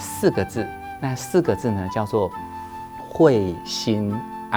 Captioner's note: Mandarin